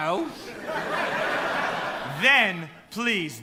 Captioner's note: laughter